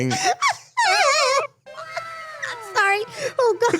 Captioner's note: Ironmouse laughing